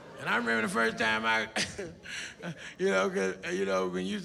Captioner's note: laughs